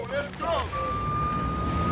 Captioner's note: police sirens wailing